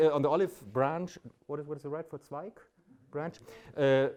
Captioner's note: speaks in German